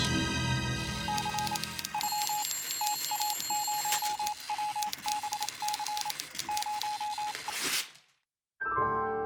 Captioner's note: suspense music; telegraph beeping; piano strum